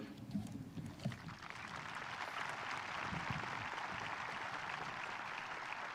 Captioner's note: audience applauding